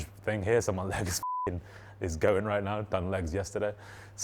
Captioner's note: beep